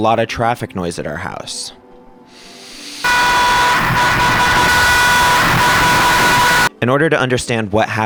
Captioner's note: extremely loud car horn honking repeatedly